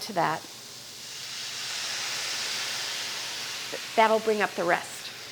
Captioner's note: sizzling